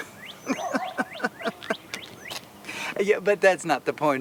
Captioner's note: chuckles